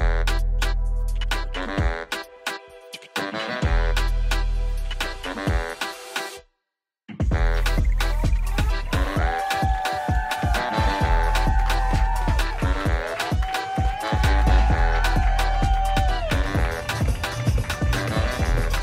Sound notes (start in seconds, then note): 9.1 cheering; 9.5 crowd